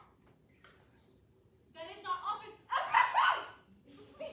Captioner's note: she sneezes again